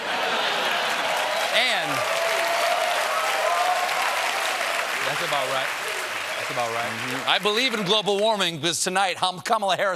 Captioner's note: applause